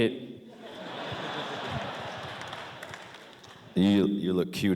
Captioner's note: laughter